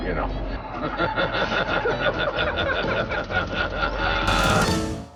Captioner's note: laughing; dramatic music